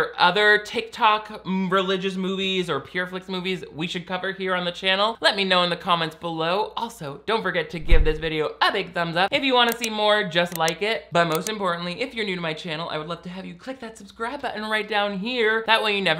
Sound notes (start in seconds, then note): none